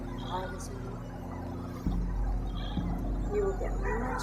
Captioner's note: murmurs seductively